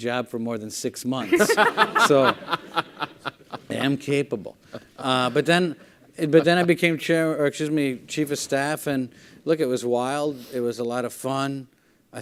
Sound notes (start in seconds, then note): 1.2 laughing